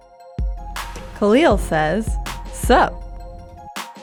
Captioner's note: voiceover